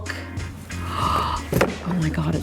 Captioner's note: gasps